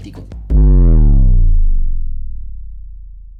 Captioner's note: bass sound effect